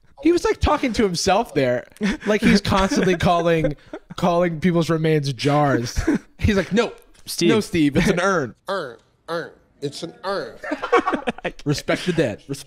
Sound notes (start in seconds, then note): 1.9 chuckles; 10.5 laughing